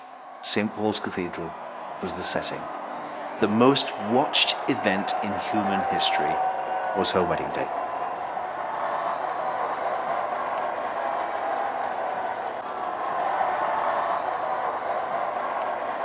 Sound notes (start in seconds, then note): 0.2 low crowd cheering; 8.6 crowd cheering